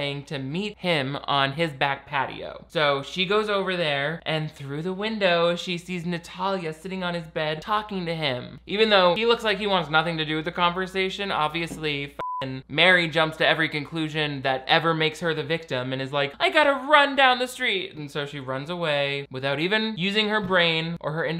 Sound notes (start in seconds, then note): 12.2 beep